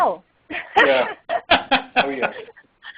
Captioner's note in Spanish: risas